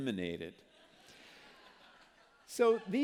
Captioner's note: laughter